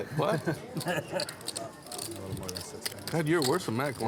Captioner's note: laughs